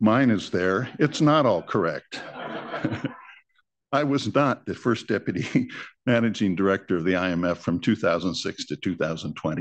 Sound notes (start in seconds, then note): 2.0 laughter; 5.1 laughs